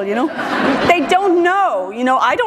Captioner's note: laughter